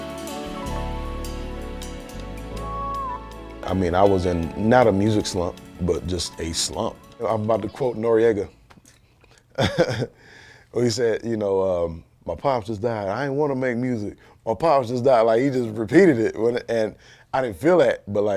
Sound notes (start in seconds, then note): 9.5 chuckles